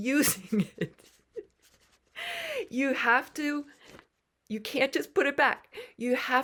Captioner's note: laughter